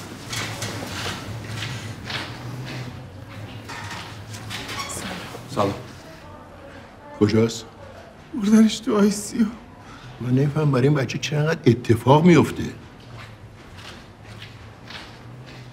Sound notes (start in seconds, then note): 12.5 footstep sound